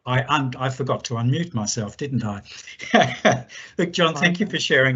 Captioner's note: chuckle